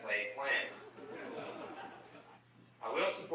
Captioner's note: group laughing